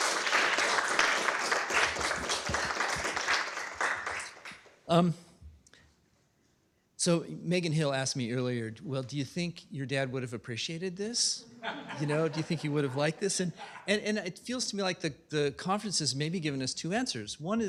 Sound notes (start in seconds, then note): 2.9 applause; 11.5 laughter